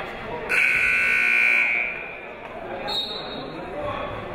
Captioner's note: buzzer ringing; whistle tweeting